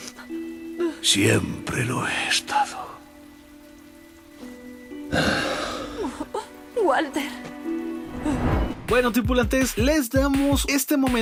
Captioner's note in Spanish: se escucha como se suena la nariz